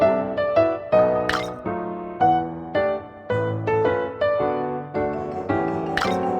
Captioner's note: system Mechanical Sound